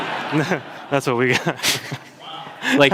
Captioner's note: audience laughter